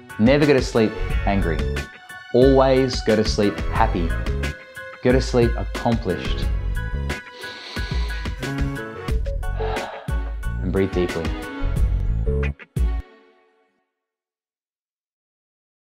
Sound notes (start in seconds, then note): 7.0 inhaling and exhaling